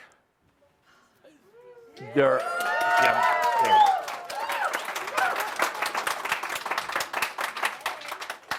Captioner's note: audience cheering and applause